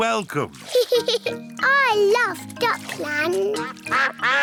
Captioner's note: giggles